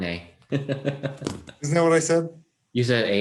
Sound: laughing

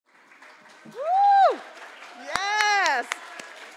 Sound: crowd applauding

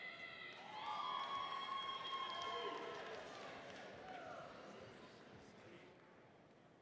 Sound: audience cheering and applauding

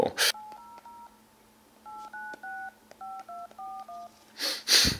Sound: phone dialing

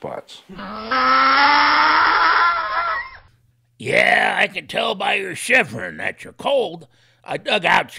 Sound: donkey noise

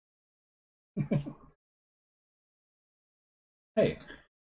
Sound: chuckles

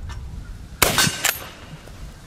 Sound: gun fires

